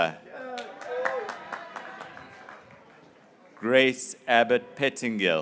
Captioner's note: graduates cheering